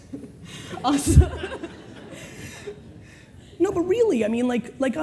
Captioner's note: laughter